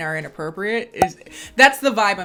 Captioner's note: popping